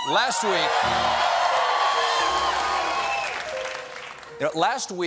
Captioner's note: cheers and applause; piano riff